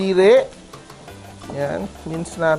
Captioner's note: sizzle